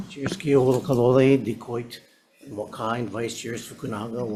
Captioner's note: speaking Hawaiian